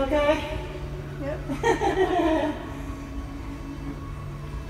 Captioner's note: laughs